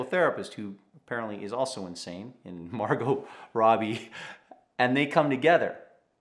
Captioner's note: chuckles